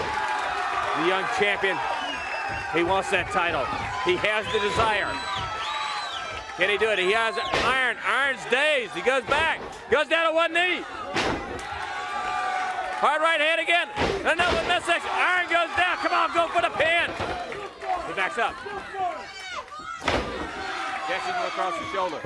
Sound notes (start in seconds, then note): 0.1 crowd cheering; 16.4 crowd cheering